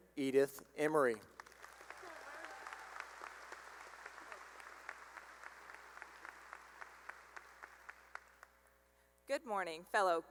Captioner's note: cheering and applause